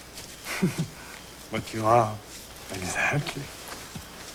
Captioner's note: chuckle